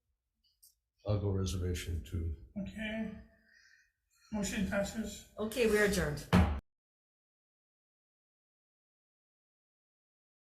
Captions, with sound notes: - I'll go reservation, too. - Okay, motion passes. - Okay, we are adjourned. (gavel strike)